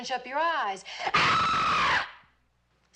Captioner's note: çığlık atıyor